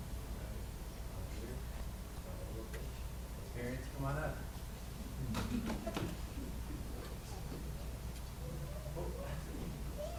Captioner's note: background chatter